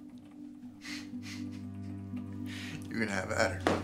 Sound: chuckles

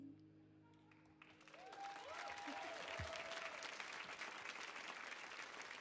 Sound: audience applauding

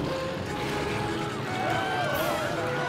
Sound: screaming

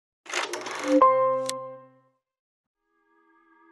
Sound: film reel rattles; suspenseful music

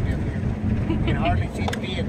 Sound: laughing

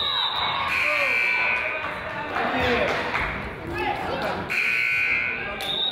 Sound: whistle blows; buzzer honks; crowd applauds; buzzer honks; whistle blows

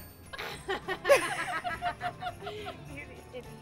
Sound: laughing

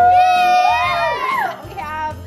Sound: kids cheer

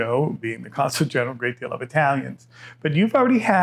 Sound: none

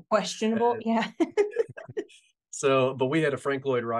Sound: laughing

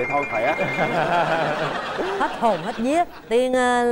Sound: laughter

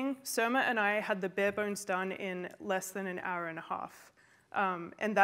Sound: none

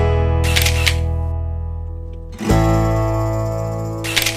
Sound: lively music; camera clicks; camera clicks

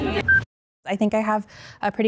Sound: timer beeping

